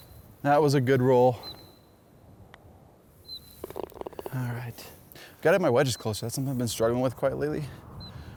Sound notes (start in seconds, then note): 3.7 grunts